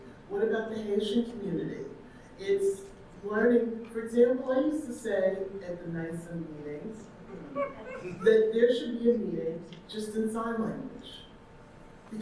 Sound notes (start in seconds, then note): 7.4 audience member laughing